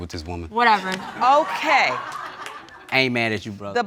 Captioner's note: audience laughing